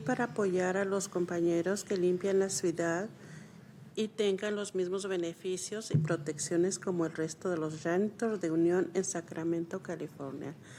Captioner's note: speaking spanish